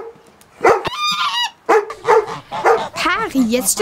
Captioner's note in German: Bellen, Schnattern